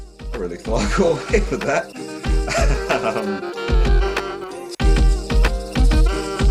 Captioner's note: laugh